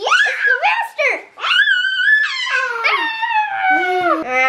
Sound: screaming

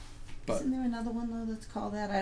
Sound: voiceover

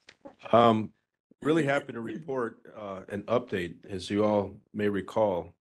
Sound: laugh

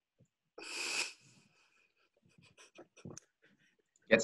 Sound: laughing

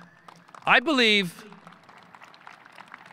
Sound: audience applauding

